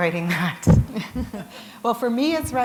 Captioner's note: chuckle